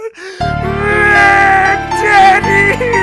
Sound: crying

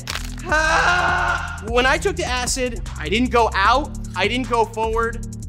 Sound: yells

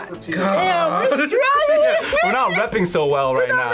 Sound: laughs

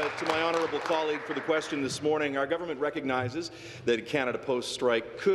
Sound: applause

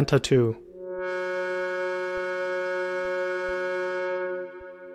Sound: computer Generated Sound

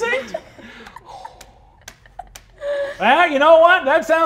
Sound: players chuckling; exhales deeply

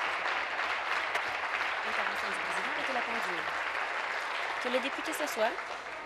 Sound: applause

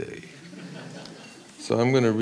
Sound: audience laughs

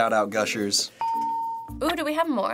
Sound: ding

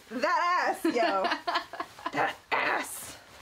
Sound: laughing

